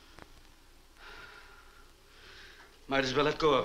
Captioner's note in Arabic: مارلو يتنهد